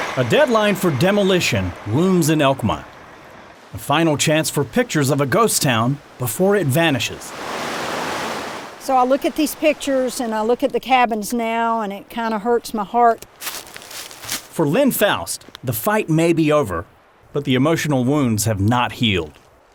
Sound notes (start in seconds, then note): 7.3 water flows; 13.3 footsteps crunching leaves